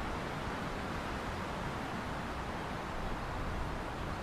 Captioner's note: wind